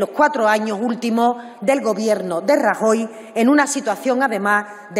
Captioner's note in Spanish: none